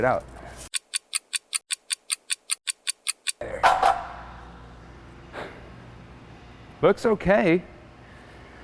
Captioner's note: ticking